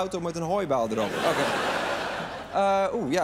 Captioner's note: laughter